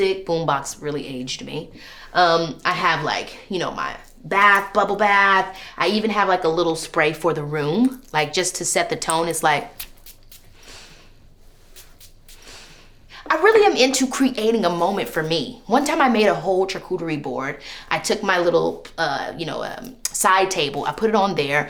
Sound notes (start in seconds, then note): 11.5 can spraying